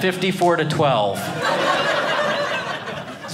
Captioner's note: audience laughing